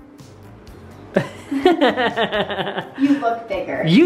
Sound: laughs

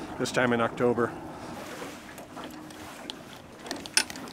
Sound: tackle rattling

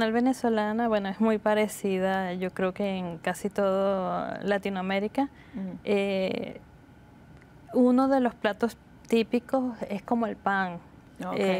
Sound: speaking Spanish

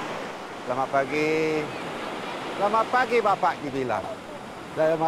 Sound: speaking Indonesian

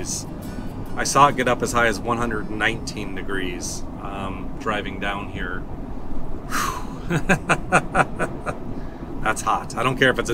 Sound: laughter

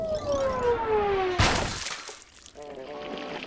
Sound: splat

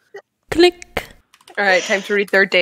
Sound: click

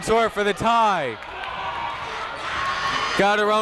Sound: people shouting in the crowd

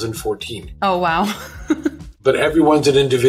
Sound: giggles

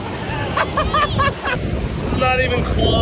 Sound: laughing

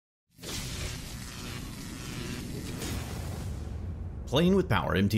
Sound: electricity whizzing

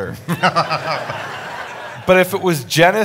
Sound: audience laughing

